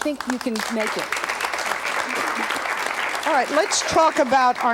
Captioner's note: audience clapping